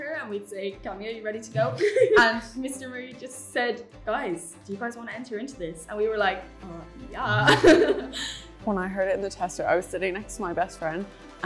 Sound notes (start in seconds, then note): 7.2 laughs